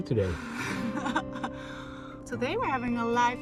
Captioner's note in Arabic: يضحك